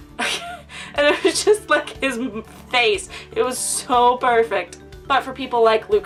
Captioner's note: laughs